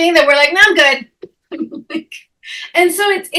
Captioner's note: chuckling